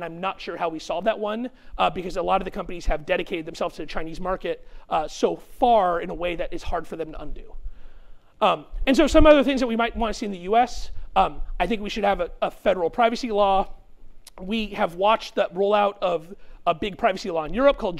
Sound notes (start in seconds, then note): none